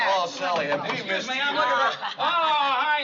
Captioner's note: knocking